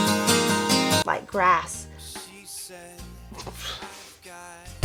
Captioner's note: laughs